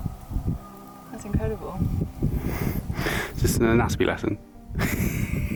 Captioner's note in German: lacht